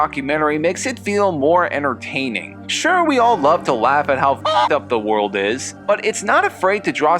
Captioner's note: cluck